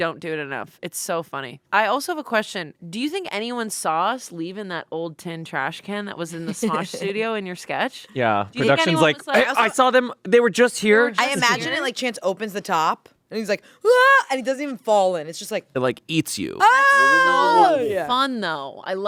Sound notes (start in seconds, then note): 13.9 screams; 16.6 screaming